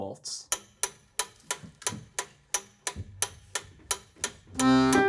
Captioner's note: metronome clicks